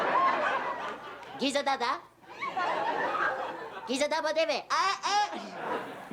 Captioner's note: laughter